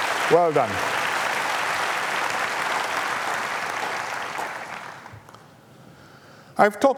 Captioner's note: applause